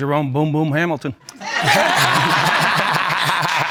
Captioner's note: all laughing